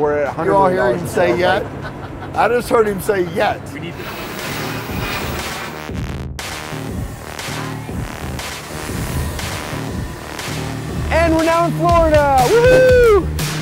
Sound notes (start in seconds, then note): 3.9 plane engine roaring; 7.4 low electronic music